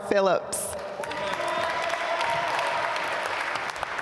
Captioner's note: applause